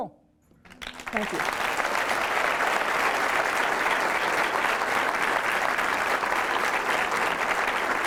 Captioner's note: applause